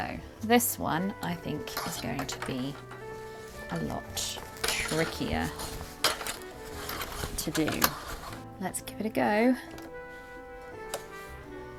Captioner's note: sewing